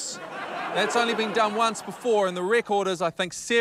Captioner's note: laughter